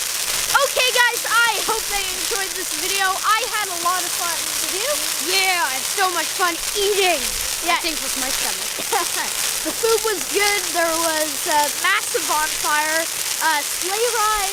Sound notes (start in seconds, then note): 0.1 bonfire crackling; 8.8 laughing